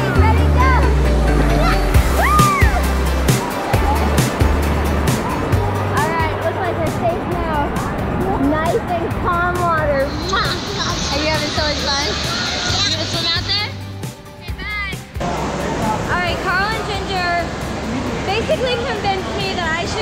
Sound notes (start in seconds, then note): 2.1 cheering; 2.1 upbeat music